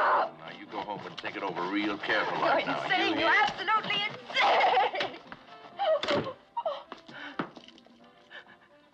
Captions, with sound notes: - You go home and think it over real careful like, you hear? - You're absolutely insane! [ Crying ]